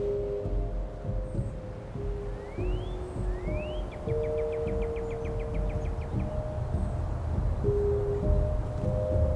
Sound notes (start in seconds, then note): 1.6 birds chirping; 2.7 calm music continues